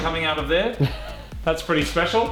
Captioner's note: snickers